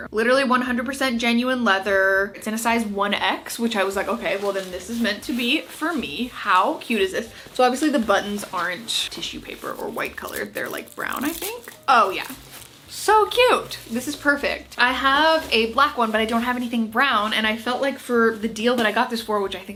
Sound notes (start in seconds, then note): 4.5 jacket shuffling; 10.3 tag shuffling; 15.5 jacket shuffling